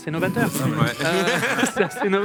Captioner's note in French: rires